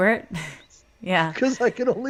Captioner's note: laughs